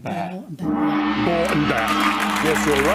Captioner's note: gong; applause